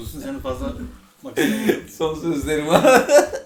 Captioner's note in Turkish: gülme sesi